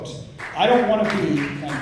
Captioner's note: clapping